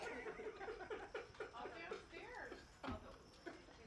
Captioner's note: laughing